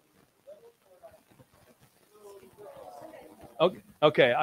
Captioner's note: audience members chatter